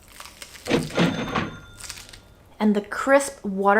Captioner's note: cash register dings